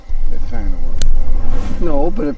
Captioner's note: speaking faintly